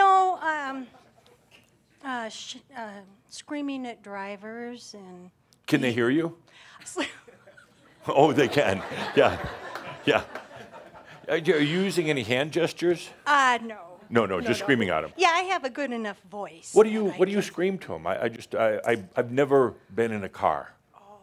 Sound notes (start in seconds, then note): 9.5 laughter